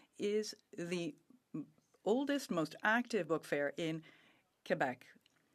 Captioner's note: speaking French